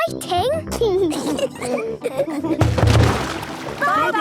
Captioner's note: giggling